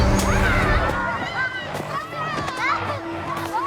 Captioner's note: children clamoring